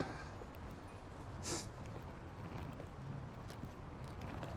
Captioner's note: sighing; sniffing